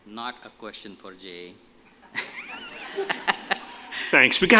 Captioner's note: laughter